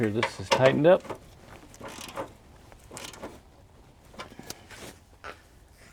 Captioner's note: drilling